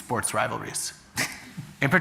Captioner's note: chuckles